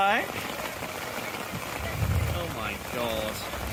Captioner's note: rain patters